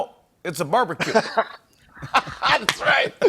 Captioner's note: laughs